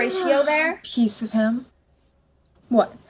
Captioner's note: yawning